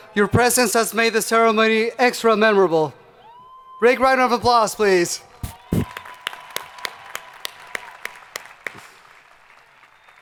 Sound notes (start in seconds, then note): 5.4 crowd applauding